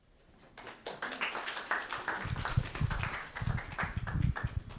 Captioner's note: audience clapping